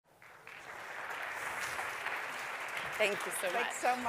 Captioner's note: applause